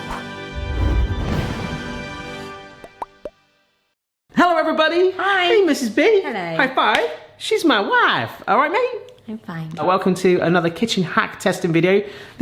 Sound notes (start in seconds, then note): 0.6 triumphant fanfare music; 7.0 high five slaps